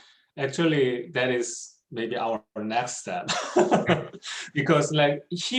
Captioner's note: laughs